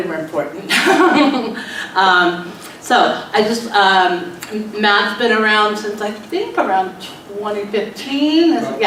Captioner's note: laughs